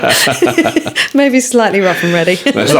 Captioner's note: laughing